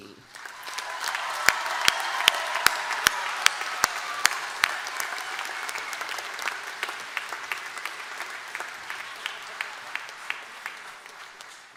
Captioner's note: applause